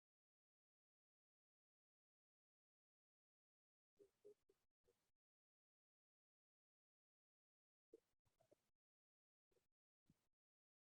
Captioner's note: no sound